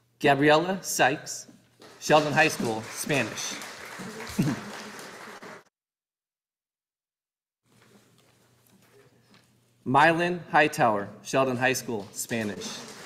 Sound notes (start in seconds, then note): 3.6 audience applauding; 12.0 audience applauding